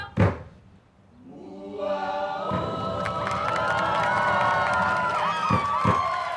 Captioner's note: cheering